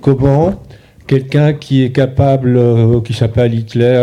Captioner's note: speaking in French